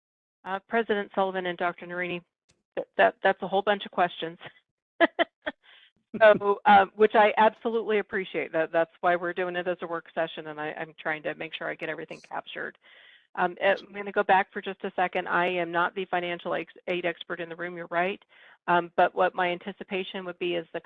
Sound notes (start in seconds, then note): 6.1 laughing